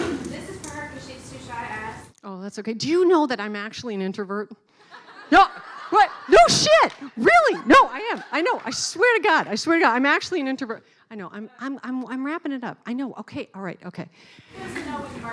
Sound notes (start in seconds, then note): 4.9 laughing